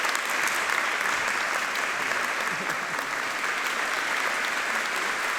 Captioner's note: audience applauding